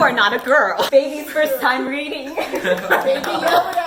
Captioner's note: lotsa laughing